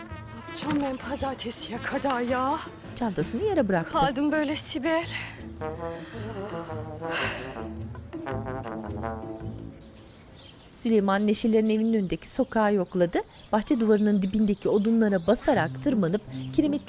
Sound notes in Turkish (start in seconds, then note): 6.7 Nefes sesi; 9.9 Kuş cıvıltısı sesleri